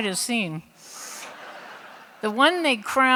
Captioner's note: laughter